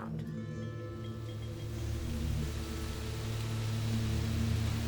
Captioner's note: wind hissing